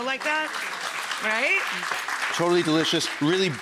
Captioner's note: audience clapping